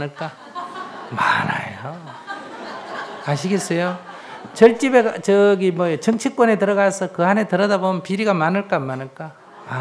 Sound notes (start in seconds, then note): 2.5 audience Laughter